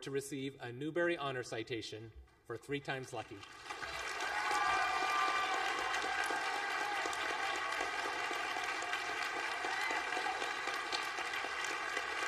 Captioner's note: applause